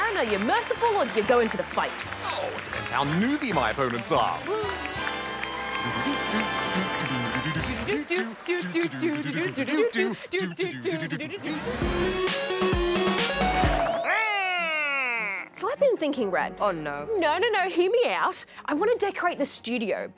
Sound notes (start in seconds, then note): 5.7 hums; 7.7 both hum